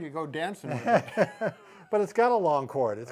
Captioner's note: laughing